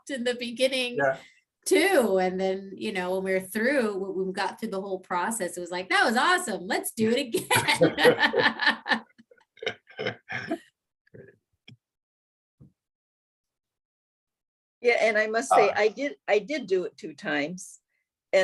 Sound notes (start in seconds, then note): 7.4 laughs